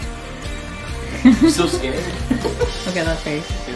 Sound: giggles

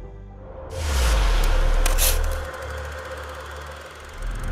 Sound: logo whooshing

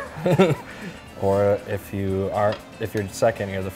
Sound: both laugh

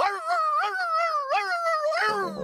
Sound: howling

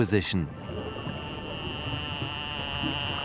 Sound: clicks

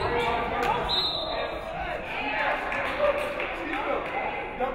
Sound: referee whistles

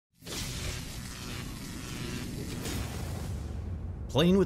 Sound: electricity buzzing

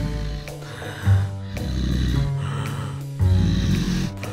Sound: evil breathing

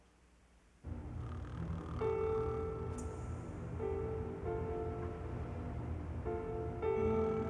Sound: suspenseful music; Elmer snores

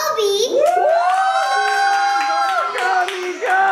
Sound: crowd cheering

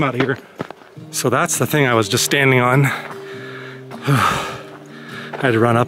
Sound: exhales

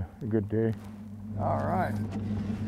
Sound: boat engine idling

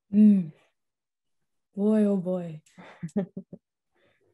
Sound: laughing

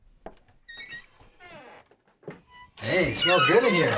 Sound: door screeching

